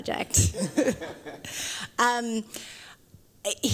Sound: laughter

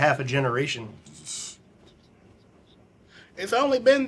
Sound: scoffs

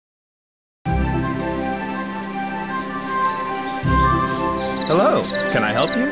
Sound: birds chirping

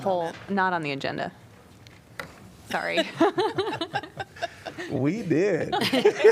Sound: laughter

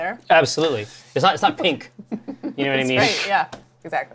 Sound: laughs

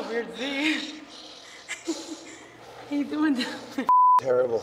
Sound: laugh

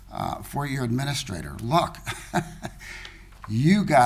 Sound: laughing

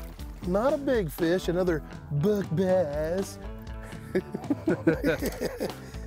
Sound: chuckles

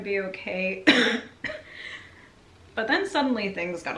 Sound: coughing

